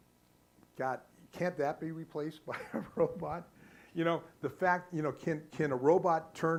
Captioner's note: laughing